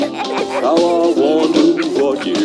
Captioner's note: both giggling